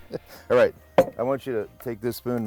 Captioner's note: laughs